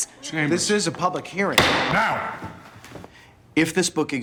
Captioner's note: none